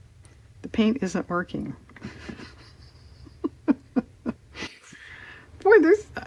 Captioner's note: laughs